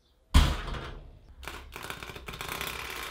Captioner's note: thudding